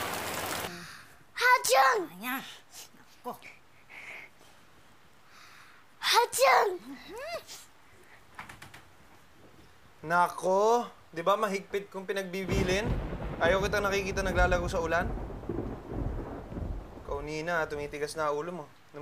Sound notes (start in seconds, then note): 1.3 sneezes, sniffles; 7.2 sneezes, sniffles; 12.4 thunder crashing